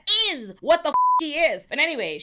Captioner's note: beep